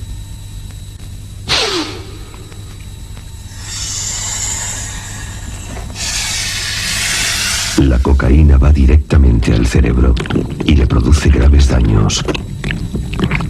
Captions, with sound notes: (man sniffs) (worm hissing) Cocaine goes directly to the brain. It produces serious damage.